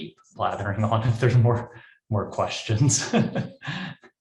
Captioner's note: laughs